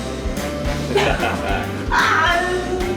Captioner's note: chuckles